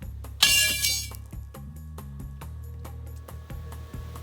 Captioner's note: hammer clanking